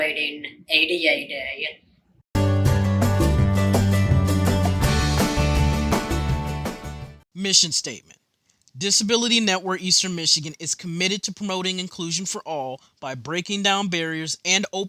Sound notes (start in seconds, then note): 7.4 voiceover